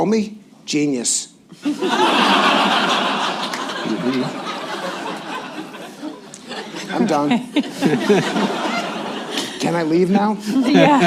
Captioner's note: laughter